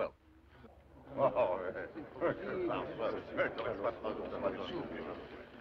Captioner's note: French; murmuring